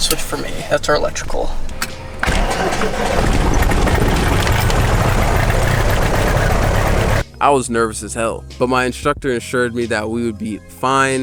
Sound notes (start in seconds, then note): 2.0 engine starting